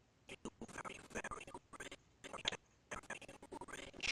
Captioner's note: audio skipping